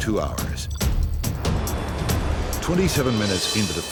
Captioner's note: percussive music; turbines whirring